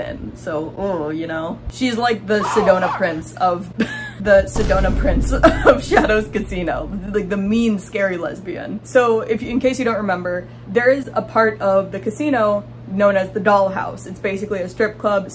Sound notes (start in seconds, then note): 2.3 laughs; 4.3 boom